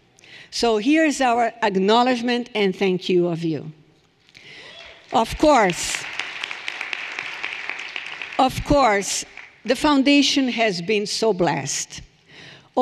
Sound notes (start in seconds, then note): 5.4 people cheering; 7.2 everyone applauding